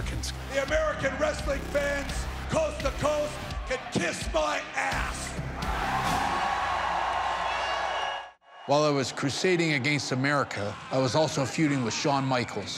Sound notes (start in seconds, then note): 5.2 cheers and applause